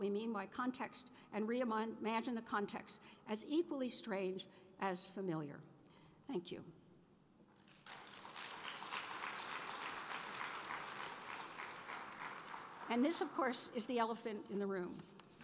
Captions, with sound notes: by context, and reimagine the context as equally strange as familiar. Thank you. (applause) And this, of course, is the elephant in the room.